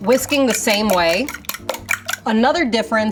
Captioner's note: bowl clacking